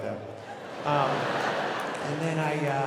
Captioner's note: audience laughing